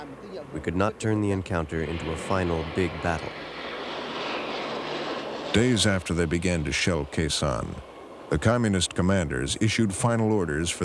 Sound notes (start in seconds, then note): none